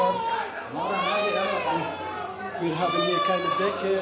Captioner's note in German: Babygeschrei, Stimmengewirr